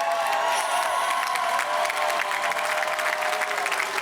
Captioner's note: cheers and applause